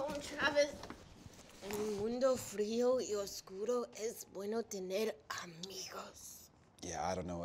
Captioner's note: in Spanish